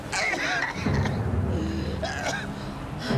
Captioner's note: coughing